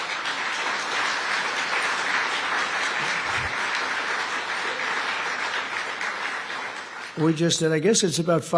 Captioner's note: applause